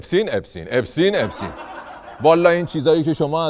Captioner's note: laughter